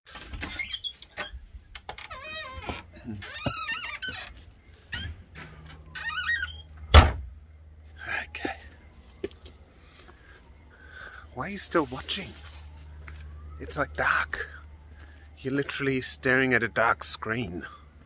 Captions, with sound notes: (door creaking) Okay, why are you still watching? It's like dark, you're literally staring at a dark screen.